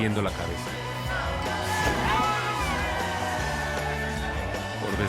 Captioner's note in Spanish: Gritos y exclamaciones